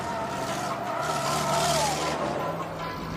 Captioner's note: tires screeching